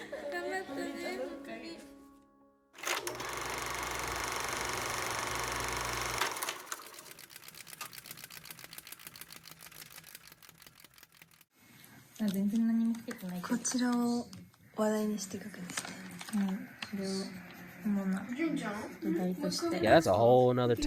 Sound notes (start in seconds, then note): 0.0 laughter; 0.3 non-english speech; 3.7 rattling; 9.1 non-english speech